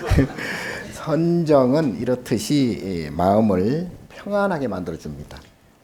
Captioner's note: speaking Korean; audience chuckling; speaking Korean